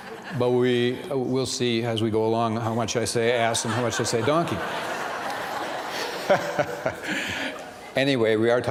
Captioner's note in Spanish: risas